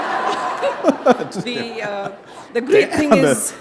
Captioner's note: laughter